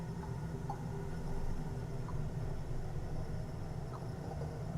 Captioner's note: water drips